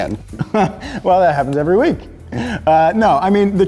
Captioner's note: laughing